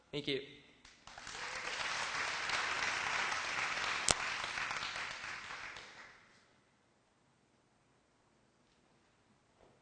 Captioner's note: applause